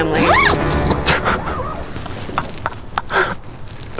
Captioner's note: laughing